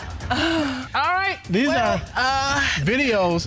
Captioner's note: audience laughs; moaning